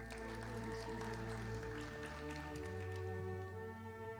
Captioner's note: audience applauding